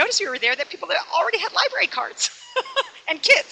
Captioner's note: laughs